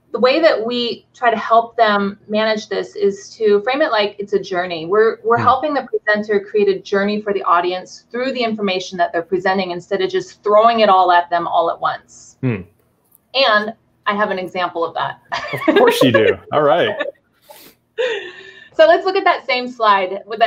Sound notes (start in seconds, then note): 15.3 laughing